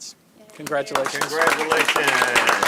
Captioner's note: applause